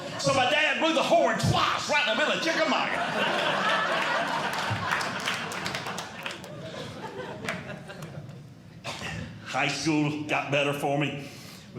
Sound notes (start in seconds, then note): 2.1 audience Laughing